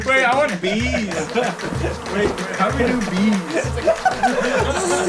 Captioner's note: swarm of bees buzzing